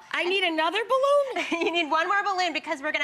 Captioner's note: laughs